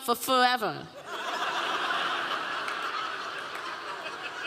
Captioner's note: audience laughing